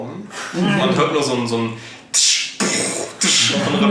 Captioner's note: imitates noises